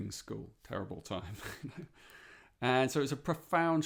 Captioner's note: chuckles